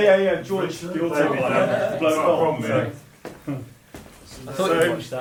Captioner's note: musician laughing